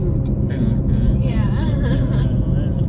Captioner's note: laughs